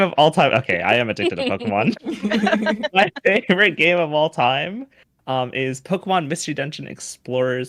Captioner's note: everyone chuckles